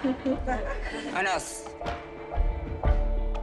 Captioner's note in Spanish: Risas